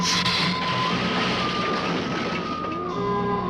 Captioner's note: lizard hissing